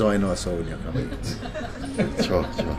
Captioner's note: laughter